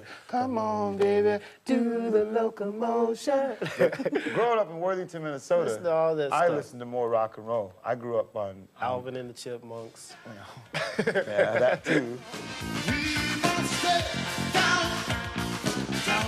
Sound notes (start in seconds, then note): 3.5 men laugh; 10.7 man laughs; 11.4 upbeat music